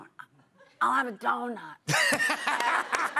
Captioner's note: laughter